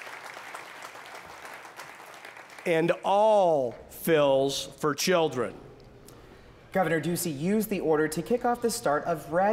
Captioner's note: applause